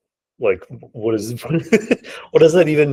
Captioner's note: laughing